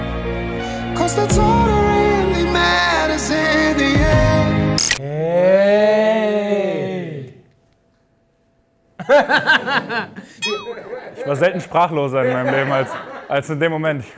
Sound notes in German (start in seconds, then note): 9.0 Lachen